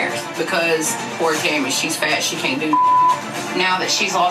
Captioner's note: beep